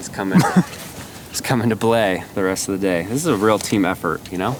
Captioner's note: exhaling